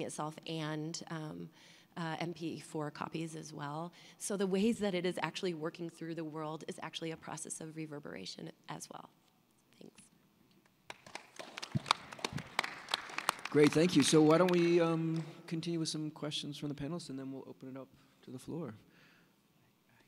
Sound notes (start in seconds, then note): 10.8 applause